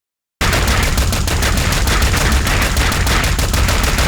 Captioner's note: gunfire clacking